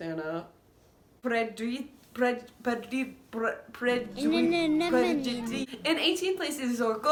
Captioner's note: Nemo trying to say 'anemone'; incoherent Italian mumbling